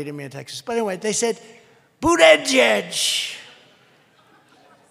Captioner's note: laughter